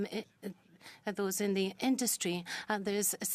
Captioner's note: speaking French